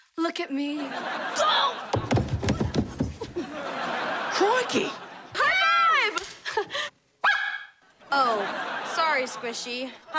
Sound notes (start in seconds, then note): 1.9 falling; 3.2 laughing; 7.3 barking